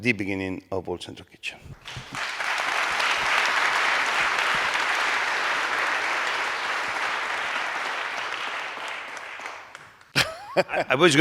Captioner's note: applause